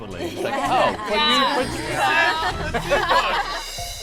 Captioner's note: laughing